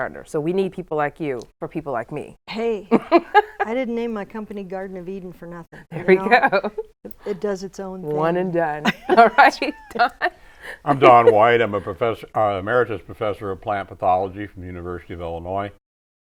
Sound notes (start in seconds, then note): 2.7 laughing; 5.8 laughs; 10.6 laughs